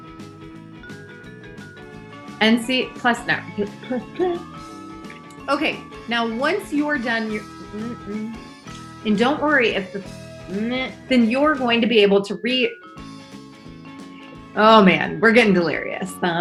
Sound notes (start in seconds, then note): 7.3 humming; 10.3 vocalizing